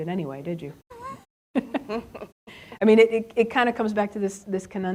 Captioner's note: chuckles